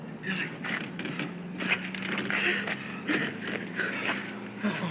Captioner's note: panting